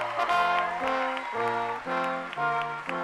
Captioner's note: cheering and applause